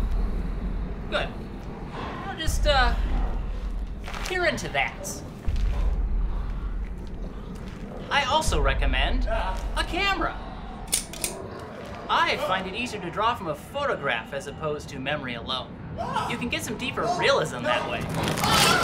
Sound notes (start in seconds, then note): 10.5 camera clicking; 18.6 blood splattering; 18.6 man screaming